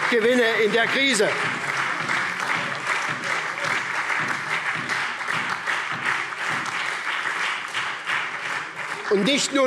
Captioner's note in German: Lebhafter Beifall SPD und DIE LINKE